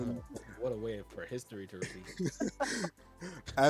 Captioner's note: laughs